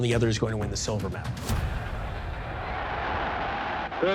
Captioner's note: cheers and applause